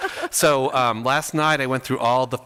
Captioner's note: laughs